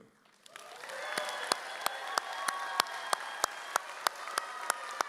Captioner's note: audience cheers